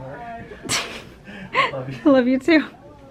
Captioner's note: laughs